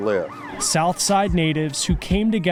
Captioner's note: siren wailing